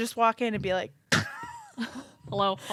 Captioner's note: laughs